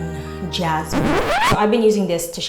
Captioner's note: record scratch